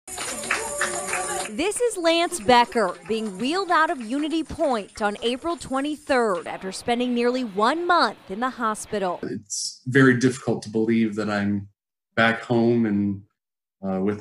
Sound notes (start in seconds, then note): 2.8 nats of cheers